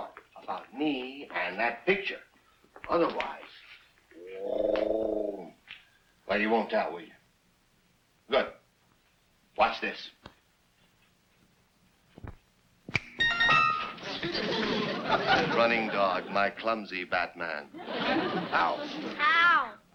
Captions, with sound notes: about me and that picture. Otherwise, (growls) well, you won't tell, will you? Good. Watch this. (finger snaps) (whimsical chimes) Running Dog, my clumsy batman. - How. - How.